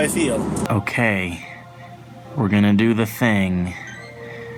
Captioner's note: game sounds